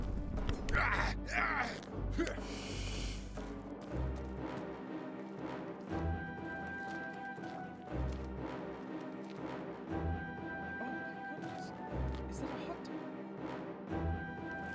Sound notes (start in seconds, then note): 0.7 pained groan; 11.6 crowd murmering